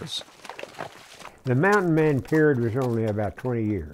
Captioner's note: voiceover